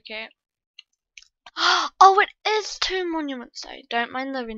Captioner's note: gasp